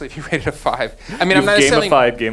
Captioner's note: laughs